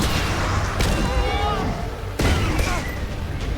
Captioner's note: guns blasting; man yells